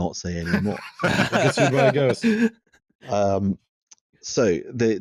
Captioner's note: laughter